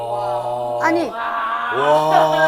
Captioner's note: everyone going wow